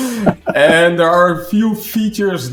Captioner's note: laughs